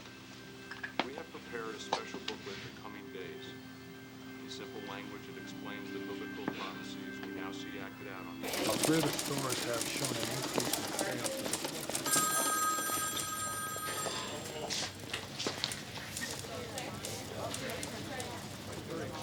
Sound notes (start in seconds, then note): 8.4 people chattering; 8.4 typing on typewriters; 11.0 phone ringing